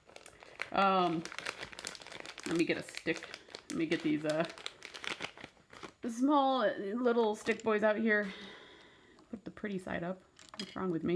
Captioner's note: plastic crinkling